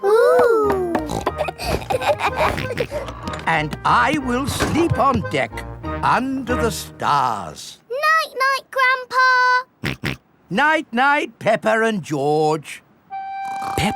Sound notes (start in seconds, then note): 1.0 snorts, laughs; 9.9 snorts